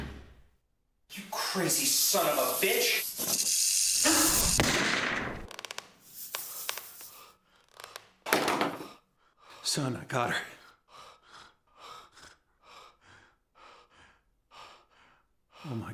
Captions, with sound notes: - Get away from me. - You crazy son of a bitch. (snake rattling) (gun shot) (snake hissing) - Son, I got her.